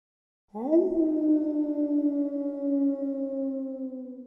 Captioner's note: logo howling